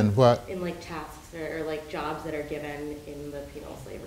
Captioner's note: woman's Voice